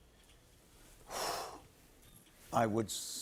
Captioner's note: exhales sharply